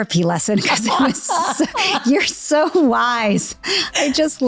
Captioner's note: laughing